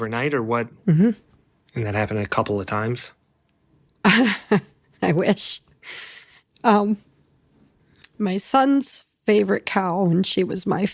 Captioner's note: laughs